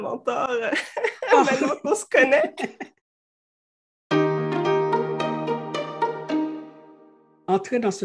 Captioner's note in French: rire